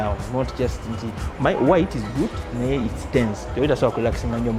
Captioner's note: foreign language; foreign language